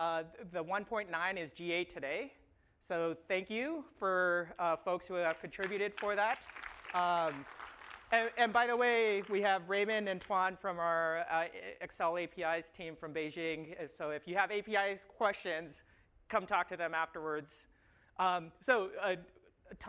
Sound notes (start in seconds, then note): 5.2 applause